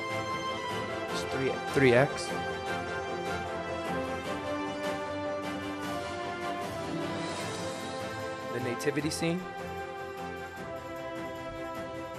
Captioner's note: speaking in spanish